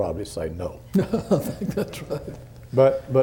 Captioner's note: laughter